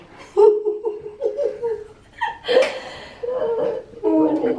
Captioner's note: laughter